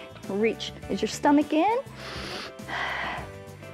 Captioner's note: inhales and exhales